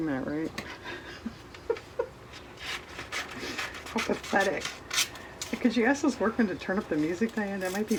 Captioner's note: laughs